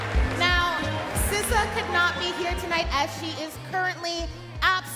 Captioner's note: cheering and Applause